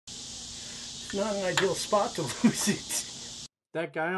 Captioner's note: laughter